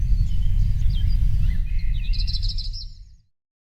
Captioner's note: birds chirping